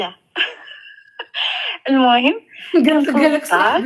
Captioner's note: laughs